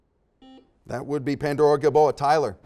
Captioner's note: beeps